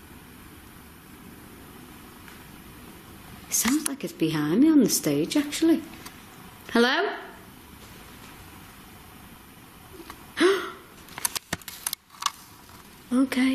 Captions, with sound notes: It sounds like it's behind me on the stage actually. Hello? (gasps)